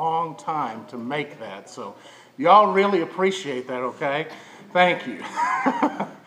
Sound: chuckles

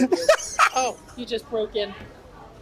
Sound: laughs

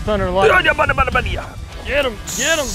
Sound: babbling

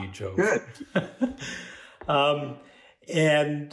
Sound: laughing

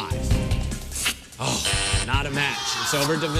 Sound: buzzer sounds

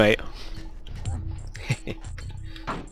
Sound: laugh

